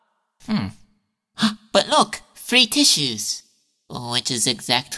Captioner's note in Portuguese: Suspiros